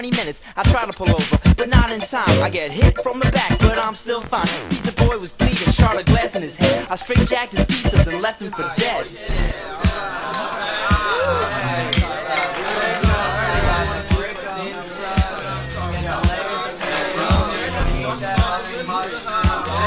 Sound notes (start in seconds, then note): 9.1 clatter, voices